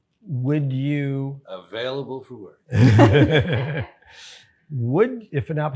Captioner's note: all laugh